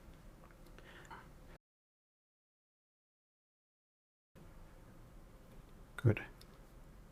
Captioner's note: silence